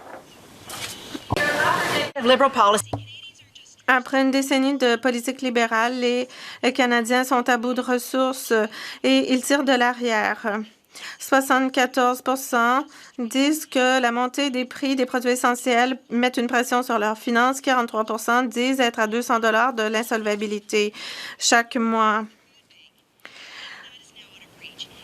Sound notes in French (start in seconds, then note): 3.9 voix de l'interprète